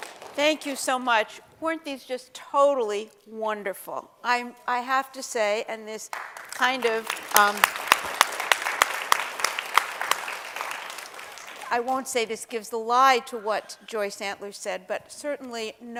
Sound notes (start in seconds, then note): 7.8 applause